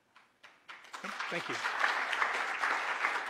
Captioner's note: applause